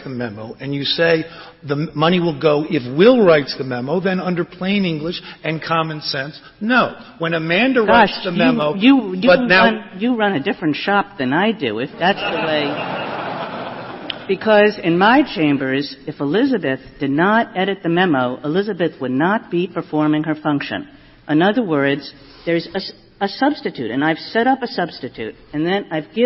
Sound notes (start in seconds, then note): 12.0 laughter